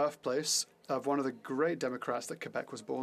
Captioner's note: speaking french